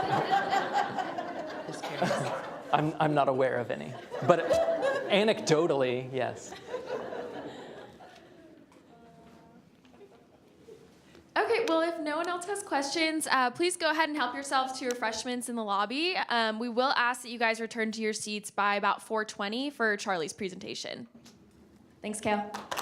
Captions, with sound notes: THAT SHOW PEOPLE THAT HAVE A MULLET BEFORE THE AGE OF 10 ARE VERY SUCCESSFUL? >> I'M NOT AWARE OF ANY. BUT ANECDOTALLY, YES. [ LAUGHTER ] . >> OKAY, WELL, IF NO ONE ELSE HAS QUESTIONS, PLEASE HELP YOURSELVES TO REFRESHMENTS IN THE LOBBY. WE WILL ASK YOU RETURN TO YOUR